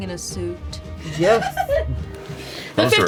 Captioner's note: laughs